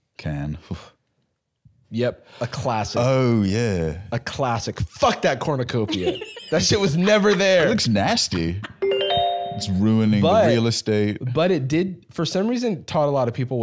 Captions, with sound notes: Can. - Yep. A classic. - Oh, yeah. A classic. Fuck that cornucopia. - That shit was never there! - It looks nasty. - (pleasant chime) - It's ruining the real estate. But it did, for some reason, taught a lot of people